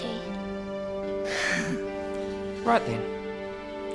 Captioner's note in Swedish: skrattar